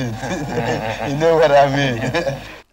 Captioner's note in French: en riant